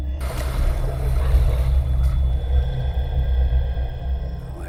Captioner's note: water splashing